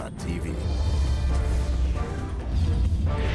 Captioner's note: voiceover